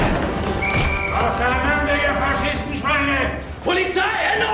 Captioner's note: whistle blows